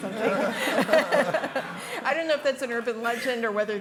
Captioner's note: audience laughing; group laughing